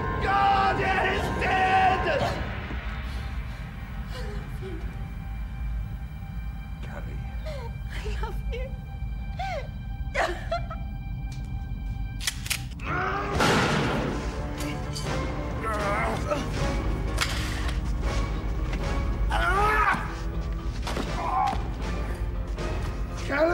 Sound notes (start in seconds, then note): 1.1 soft intense music; 2.7 soft tense music; 9.2 sobbing; 12.1 gun cocking; 12.2 McRayer roaring; 13.2 gun firing; 15.0 dramatic orchestral music; 16.9 gun clattering; 18.1 dramatic orchestral music; 19.7 McRayer roaring; 20.8 Phil thudding to floor